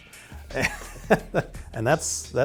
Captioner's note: laughs